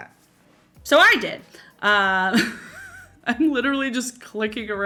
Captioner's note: laughs